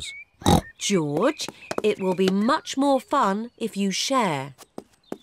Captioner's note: oinks